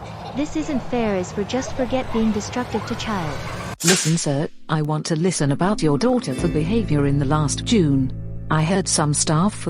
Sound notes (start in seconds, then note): 3.8 flashback Sound